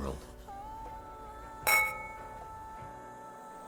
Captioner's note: clinking glasses